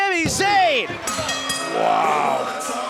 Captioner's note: bell ringing